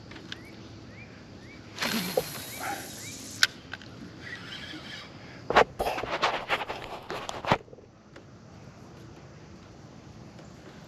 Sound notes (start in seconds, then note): 1.7 fishing line buzzing